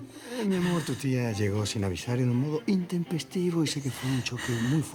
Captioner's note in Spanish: En voz baja